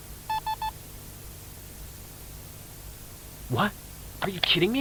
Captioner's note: EMF reader beeps become irregular; EMF reader stops beeping